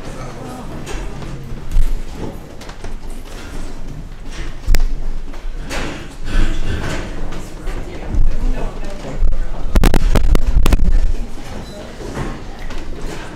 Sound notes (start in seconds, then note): 2.1 lot’s of rustling from the crowd